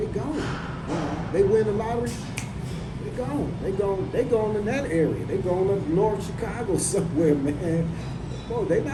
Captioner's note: snaps